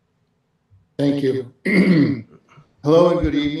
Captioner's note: clears throat